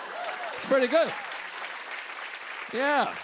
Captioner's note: applause